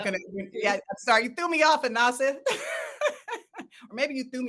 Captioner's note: laughs